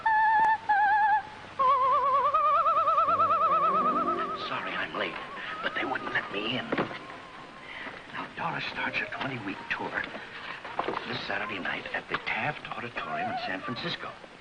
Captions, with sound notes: [Whispering] Sorry I'm late. But they wouldn't let me in. Now Doris starts her 20 week tour... Saturday night at the Taff Auditorium San Francisco!